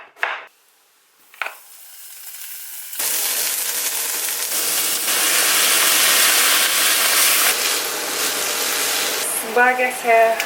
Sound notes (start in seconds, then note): 1.7 frying beef